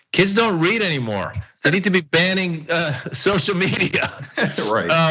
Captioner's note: laugh